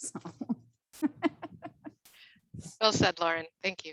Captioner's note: both laughs